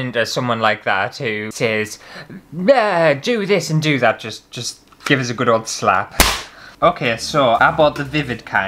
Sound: slap!

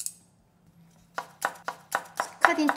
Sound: cutting sound on the chopping board

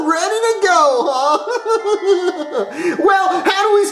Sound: laughs

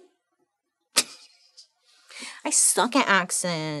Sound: laughing

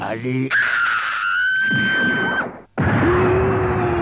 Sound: scream

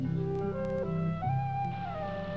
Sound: water babbles

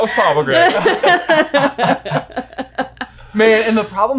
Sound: all laughing

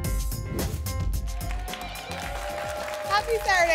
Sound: applause and cheering

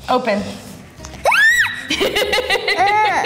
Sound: squealing; laughing

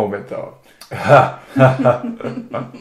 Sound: both laugh

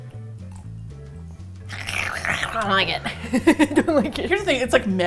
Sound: hisses; laughs

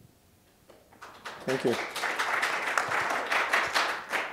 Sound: applause

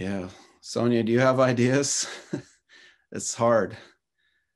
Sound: chuckles

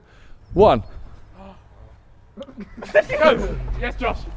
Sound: men gasping

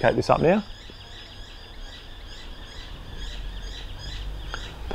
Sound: birds chirping

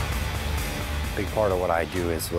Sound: none

